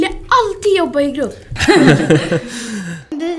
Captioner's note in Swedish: skrattar